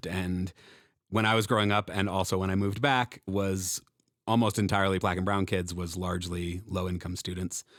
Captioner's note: none